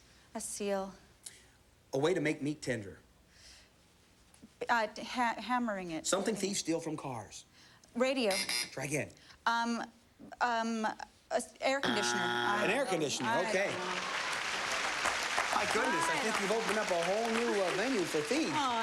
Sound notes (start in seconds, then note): 8.1 buzzer